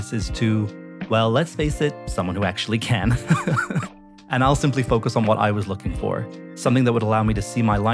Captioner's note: laughter